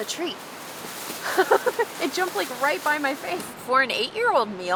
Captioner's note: laughs